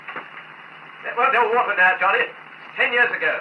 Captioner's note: distant arguing